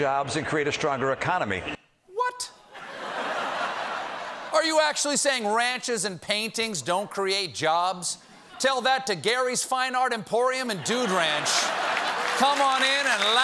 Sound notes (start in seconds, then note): 2.7 laughter; 11.6 applause